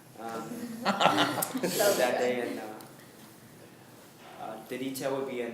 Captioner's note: laughing